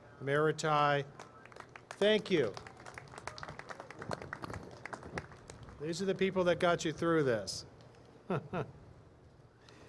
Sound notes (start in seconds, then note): 1.1 applause; 8.2 laughter